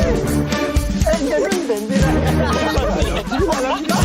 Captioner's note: laughing